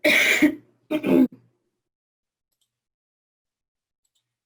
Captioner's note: coughs